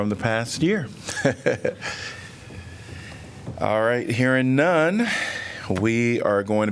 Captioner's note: laughter